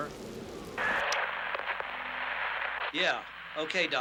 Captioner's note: static buzzing